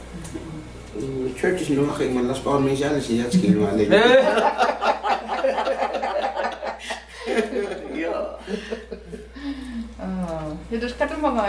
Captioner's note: laughing